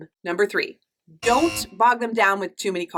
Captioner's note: error buzzing